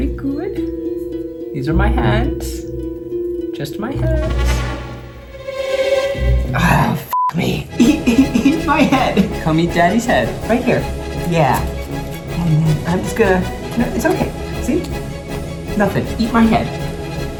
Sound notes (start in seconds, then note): 0.0 mysterious music; 4.8 intense music; 7.7 sobbing; 8.0 upbeat music